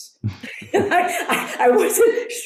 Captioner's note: laughs